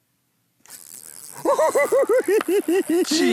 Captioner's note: chortling